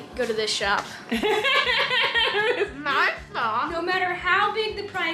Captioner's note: laughing